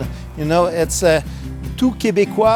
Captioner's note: continues speaking in French